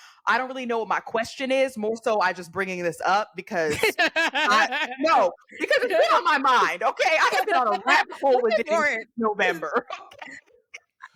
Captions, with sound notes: I don't really know what my question is, most so I just bringing this up because, no, because it's been on my mind, okay? (laughing) - It's been on a rabbit hole with Diddy. - It's been for it, November. (laughing)